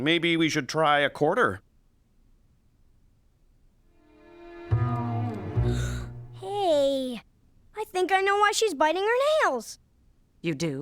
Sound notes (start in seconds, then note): 5.6 gasping